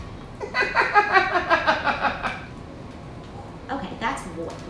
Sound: woman laughing

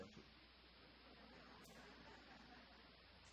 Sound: audience chuckles

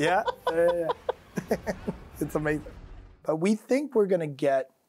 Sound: laughs

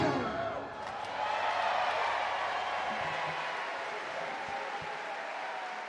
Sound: audience cheer and clap

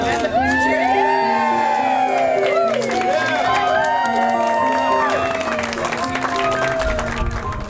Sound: group of voices; cheering and clapping

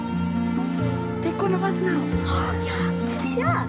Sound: speaking in Greek

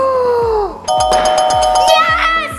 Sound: gasps; bell ringing

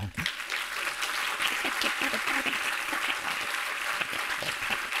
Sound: audience applauding

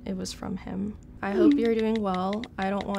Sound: keyboard clacking

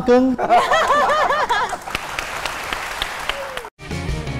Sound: laughing; applause

